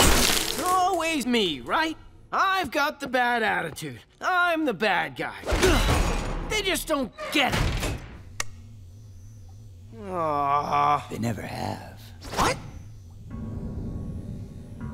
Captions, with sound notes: Always me, right? I've got the bad attitude. I'm the bad guy. [grunting] They just don't get it. [groaning] They never have. What?